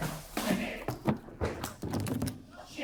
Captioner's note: heavy thud